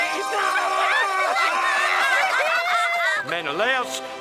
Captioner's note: laughter